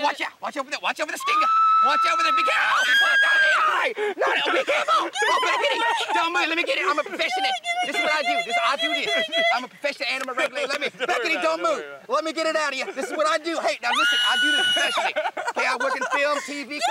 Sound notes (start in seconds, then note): 1.2 screaming; 12.7 laughing; 13.9 screaming; 14.2 laughing